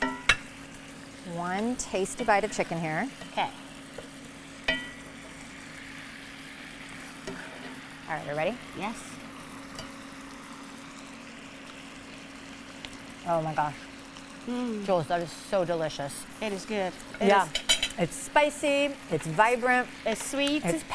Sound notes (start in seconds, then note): 0.0 spoons clangs on pan; 4.6 spoon clangs on pan